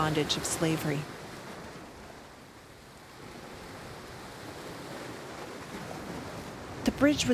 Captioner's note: waves crashing